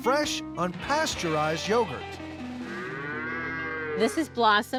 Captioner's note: cow mooing